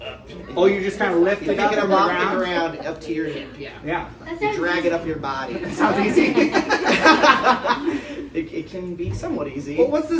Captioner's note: laughs